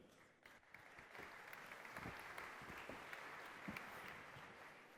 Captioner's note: applause